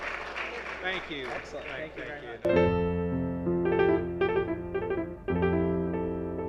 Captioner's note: applause